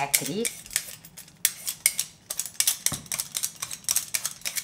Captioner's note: metal clanking